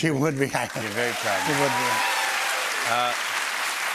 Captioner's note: cheers and applause